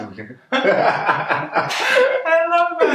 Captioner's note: both laughing